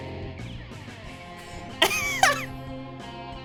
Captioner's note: laughing